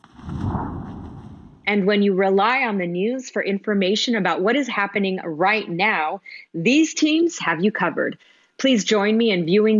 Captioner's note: speaking spanish